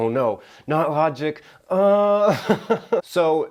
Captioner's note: chuckles